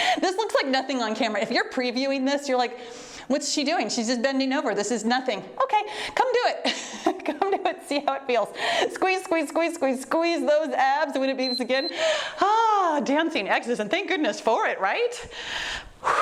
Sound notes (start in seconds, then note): 11.4 timer beeps; 15.4 exhales deeply